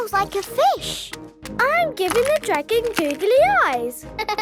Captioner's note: laughing